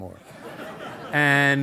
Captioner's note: audience laughing